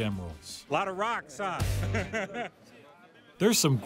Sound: laughs

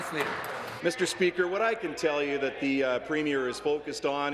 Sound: applause

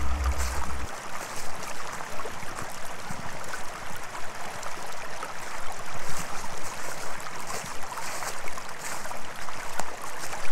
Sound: walking, water

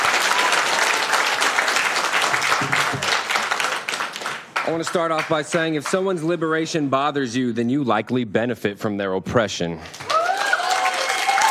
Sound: applauding

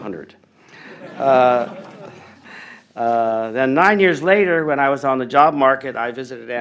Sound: laughter

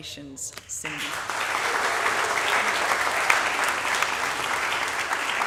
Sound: audience applauding

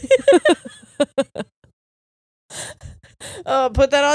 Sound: both laughing

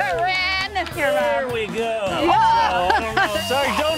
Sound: laughs

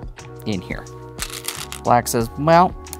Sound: stones rattling

